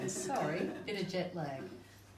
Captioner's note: group laughs